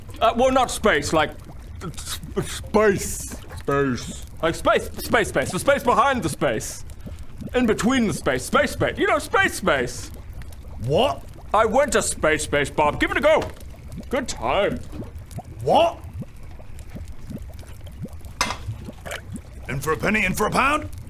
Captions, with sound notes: Well not space, like s...s...space space space...space space the space behind the space in-between the space, space space you know, space space What? I went to space space Bob, give it a go good times What? *slurp* In for a penny in for a pound